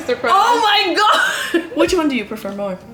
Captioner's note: laughs